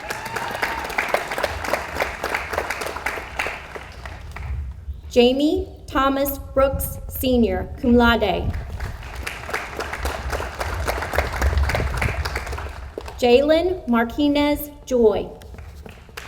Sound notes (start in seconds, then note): 0.0 audience applauds; 8.6 audience applauds